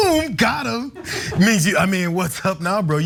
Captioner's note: laugh